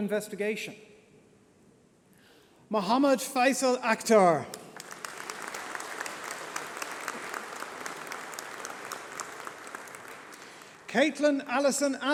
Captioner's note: applause